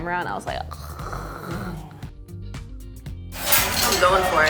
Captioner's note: making drooling sound